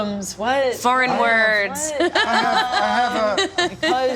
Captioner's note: laughs